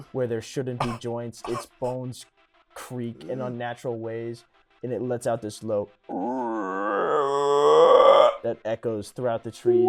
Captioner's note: monster moaning